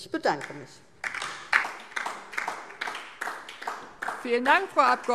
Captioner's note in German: Beifall DIE LINKE